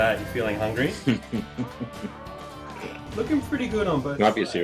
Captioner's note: laughs